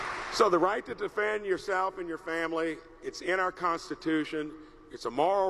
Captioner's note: applause